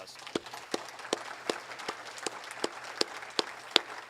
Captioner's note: audience applauds